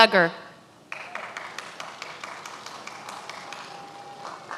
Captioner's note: many applauding